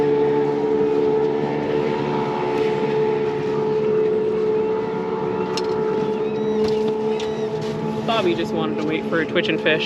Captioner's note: boat engine running; reel cranking